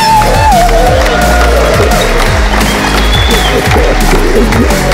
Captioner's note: applause